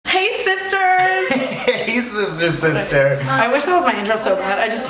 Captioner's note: laughs